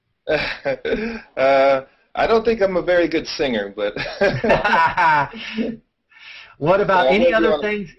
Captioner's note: laughter